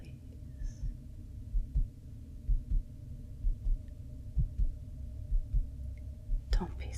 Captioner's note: heart beating